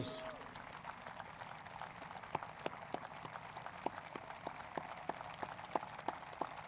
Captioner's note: applause